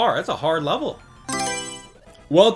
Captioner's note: Mario Selection Sound